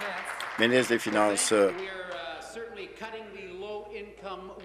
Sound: applause

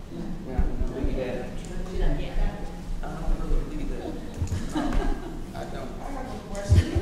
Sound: laughing

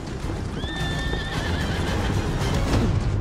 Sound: horse neigh

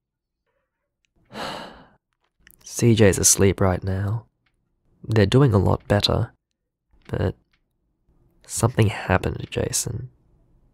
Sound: sigh

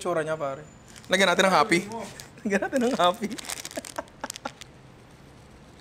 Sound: laughs

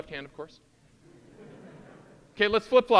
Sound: audience laughing

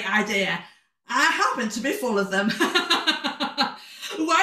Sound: laughter

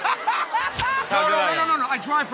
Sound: laughter

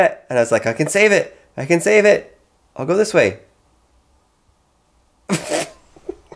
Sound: laughing

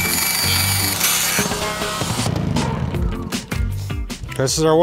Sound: saw buzzing; upbeat music

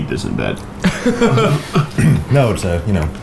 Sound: laughing

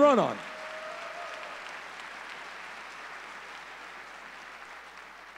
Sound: audience cheering

